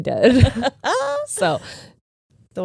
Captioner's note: chuckling